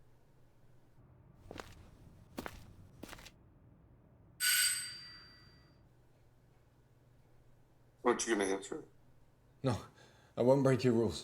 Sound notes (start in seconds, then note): 1.4 man's footsteps; 4.4 door bell rings